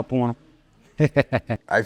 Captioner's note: laughs